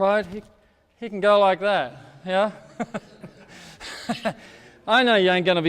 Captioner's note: laughs